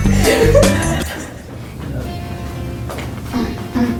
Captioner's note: laughing